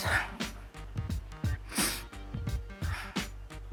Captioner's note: whispering; sniffles